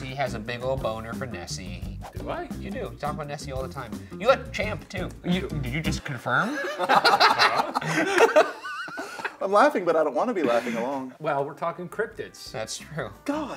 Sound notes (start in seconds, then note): 6.4 all laughing